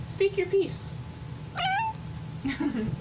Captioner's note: cat meows